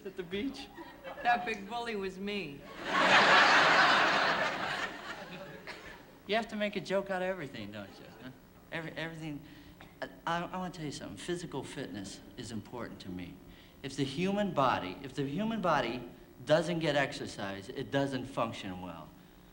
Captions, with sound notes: -at the beach? -That big bully was me. [ Laughter ] You have to make a joke out of everything, don't you? Everything. I want to tell you something. Physical fitness is important to me. If the human body-- if the human body doesn't get exercise, it doesn't function well.